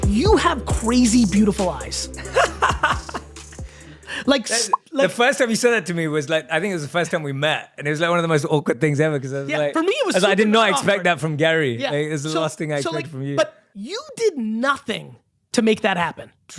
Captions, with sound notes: You have crazy beautiful eyes. (laughing) - The first time you said that to me was like, I think it was the first time we met, and it was like one of the most awkward things ever 'cause it was like-- - Yeah, for me it was awkward. - 'Cause I did not expect that from Gary, it's the last thing I'd expect from you. - So like, but you did nothing to make that happen.